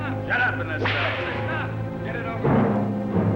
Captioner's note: whip cracks